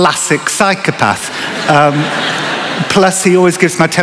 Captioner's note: laughter